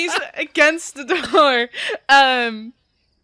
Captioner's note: everyone loses it